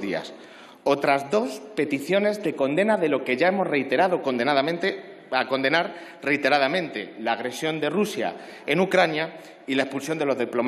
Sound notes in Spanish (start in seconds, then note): none